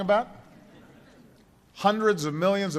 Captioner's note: laughter